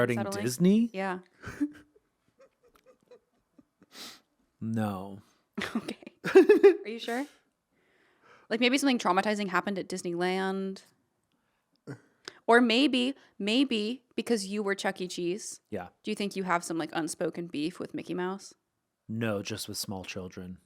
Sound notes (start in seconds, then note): 2.4 giggling; 5.6 laughing